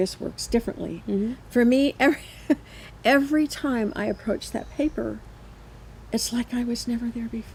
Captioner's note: chuckles